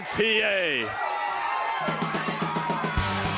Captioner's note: crowd cheering